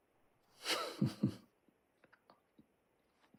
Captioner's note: laughs